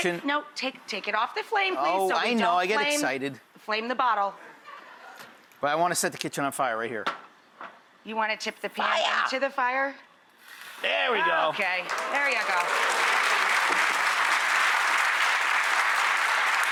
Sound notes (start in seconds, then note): 4.6 audience laughing; 11.5 audience clapping